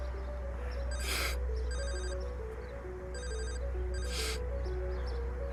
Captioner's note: phone ringing